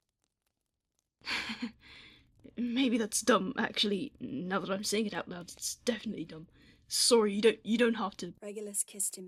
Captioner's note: nervous laughter